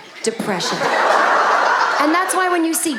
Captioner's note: audience laughing